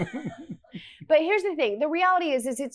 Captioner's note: laughs